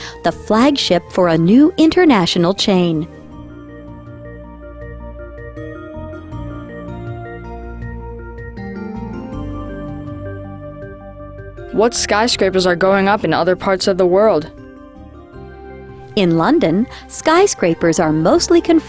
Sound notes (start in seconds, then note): 4.0 slow tempo music; 11.9 voiceover; 16.3 voiceover